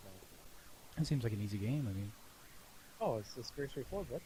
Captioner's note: sarcastic